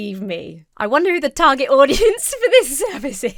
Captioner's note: laughs